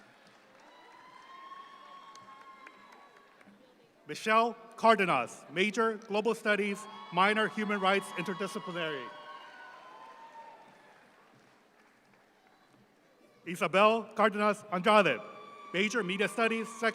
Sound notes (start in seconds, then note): 9.4 audience applauds